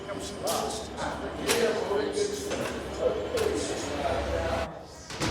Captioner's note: indistinct chatter